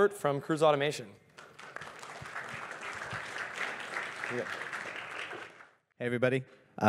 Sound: applause

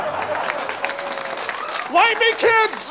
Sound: audience laughter; audience applause

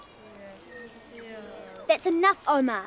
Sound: crowd agrees

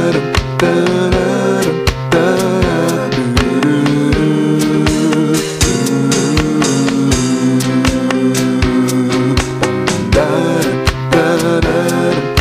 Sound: humming melodies continued

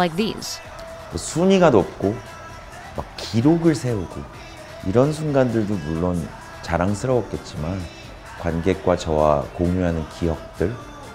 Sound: non-english speech

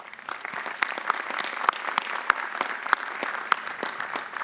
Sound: audience applauding

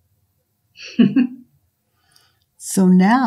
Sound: giggles

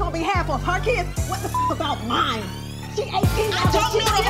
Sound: beep

